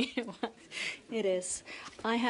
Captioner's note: laughter